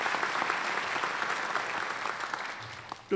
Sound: applause

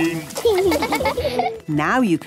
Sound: laughing

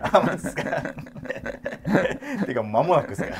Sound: laughing

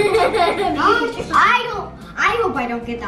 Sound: giggles

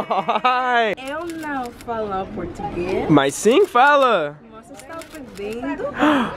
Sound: laughing; speaking in foreign language

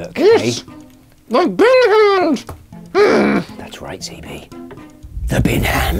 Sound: grumbles; whispers

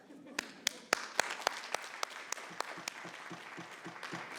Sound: applause

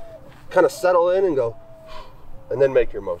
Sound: exhales

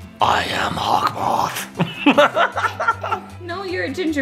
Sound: laughing

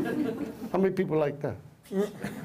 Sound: laughter

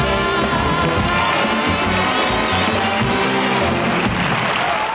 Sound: audience applauding

